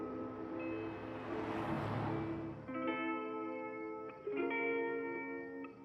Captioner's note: soft Hawaiian music; cars whooshing; soft Hawaiian music